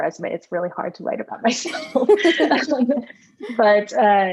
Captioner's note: laughs